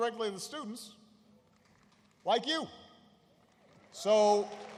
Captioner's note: applause